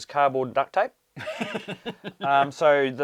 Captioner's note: laughs